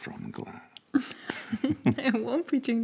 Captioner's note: both laughing